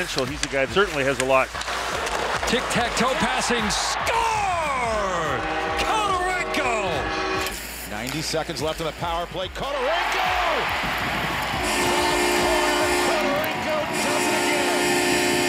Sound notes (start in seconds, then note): 2.8 crowd shouting; 5.8 hooting; 9.5 crowd cheering; 10.8 hooting